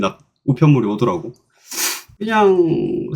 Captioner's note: sniff